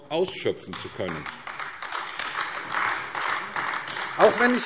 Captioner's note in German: Beifall AfD